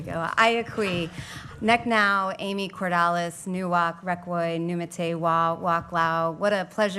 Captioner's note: speaking Native Language